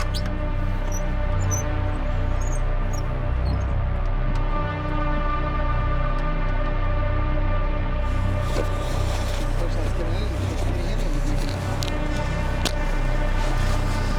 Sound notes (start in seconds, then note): 8.0 suit rustling; 8.4 eerie music continues